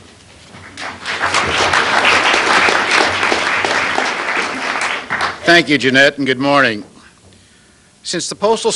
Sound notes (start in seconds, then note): 0.6 applause